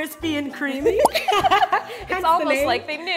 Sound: laughing

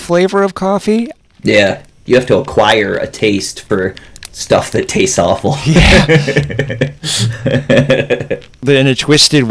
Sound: laughter

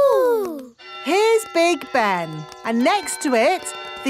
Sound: clock chimes

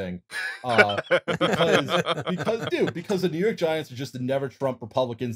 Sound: laughter

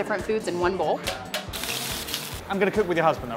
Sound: sizzling

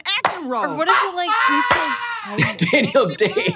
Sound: Trixie laughs

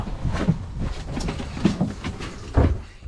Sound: footsteps clomping

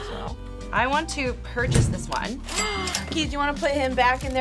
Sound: React gasps

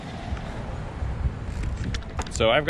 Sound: gears clicking

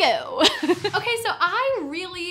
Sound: chuckles

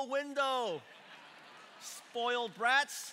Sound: congregation laughing

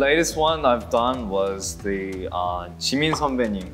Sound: speaking Korean

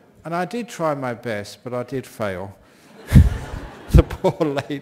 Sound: laughter from the audience

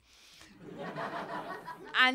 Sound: laughter

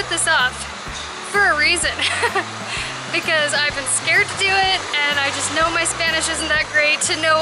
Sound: laughter

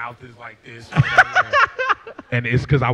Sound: laughs

